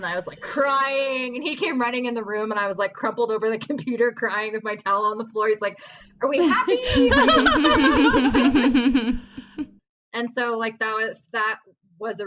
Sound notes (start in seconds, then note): 8.9 laughter